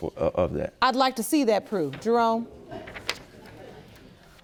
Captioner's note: audience murmuring